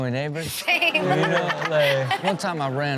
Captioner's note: everyone laughs